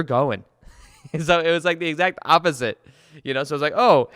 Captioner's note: laughs